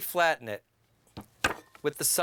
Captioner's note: knife bangs